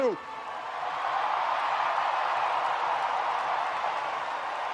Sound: audience cheers and applauds

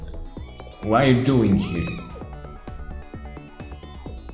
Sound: cat mews

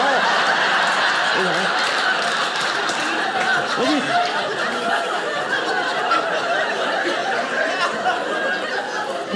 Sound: audience laughing

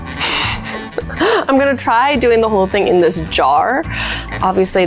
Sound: laughs

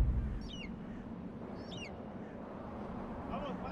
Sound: desert wind

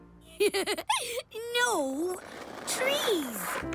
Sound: laughs

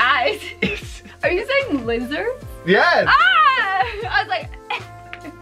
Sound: laughs

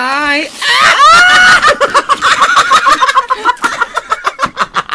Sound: hysterical Laughter

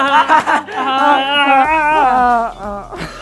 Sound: haha

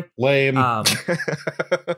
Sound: laughter

